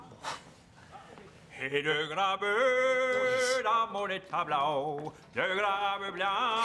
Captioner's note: Rene scoffs; sings in French